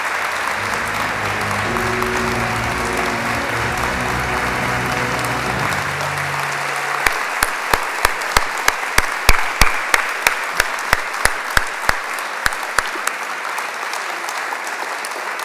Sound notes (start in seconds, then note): 0.0 applause